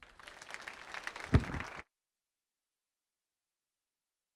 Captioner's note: audience applauding